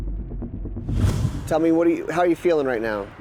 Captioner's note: tense music; whoosh